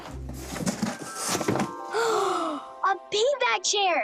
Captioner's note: bright music; both gasping